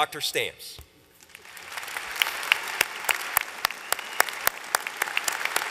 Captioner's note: applause